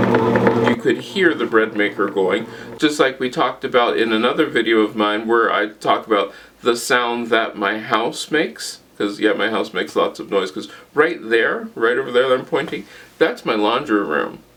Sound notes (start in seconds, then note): 0.0 breadmaker noise